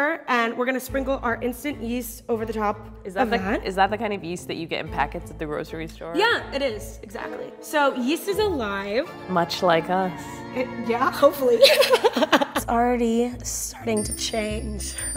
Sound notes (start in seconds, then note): 11.5 laughs